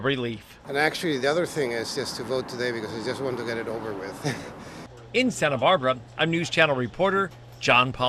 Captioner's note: laugh